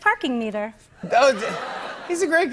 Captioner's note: laughter